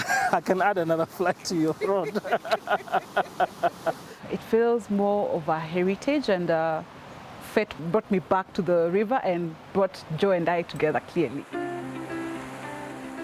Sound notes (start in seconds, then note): 1.6 laughter